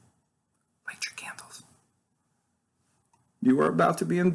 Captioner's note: whispers